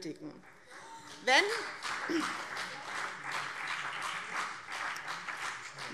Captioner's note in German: Beifall BÜNDNIS 90/DIE GRÜNEN und CDU